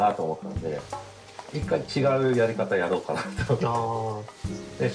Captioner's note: laugh